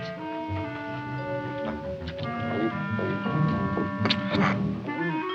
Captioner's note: eating sounds